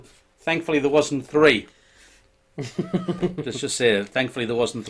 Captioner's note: chuckling